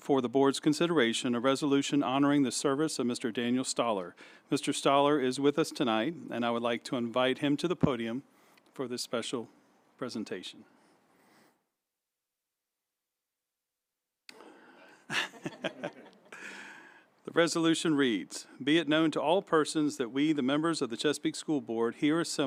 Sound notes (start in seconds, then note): 10.8 silence; 14.8 laughter